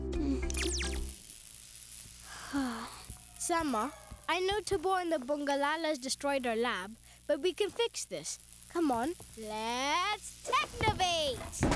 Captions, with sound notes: Hmm. [sign flckering] [long sigh] Sema, I know Tobor and the Bongolalas destroyed our lab but we can fix this. Come on.. Let’s technovate!